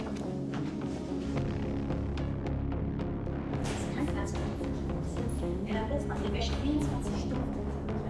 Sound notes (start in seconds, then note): 4.5 footsteps - inaudible voices